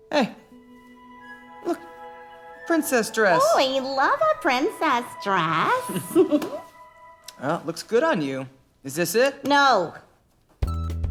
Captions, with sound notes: Hey... A princess dress. You love a princess dress. (Giggles) Huh, looks good on you. Is this it? No!